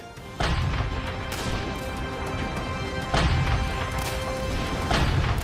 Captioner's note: mortar fire